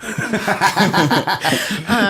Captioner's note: laughter